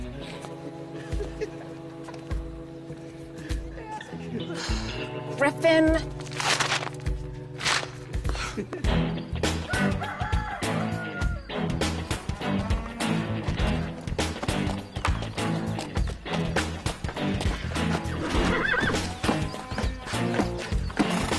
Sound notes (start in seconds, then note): 0.2 tense music; 3.3 Nikki sighs; 8.3 Eric laughs; 9.2 upbeat music; 9.6 rooster crows; 12.1 cow moos; 18.0 horse whinnies